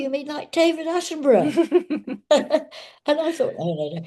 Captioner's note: both laughing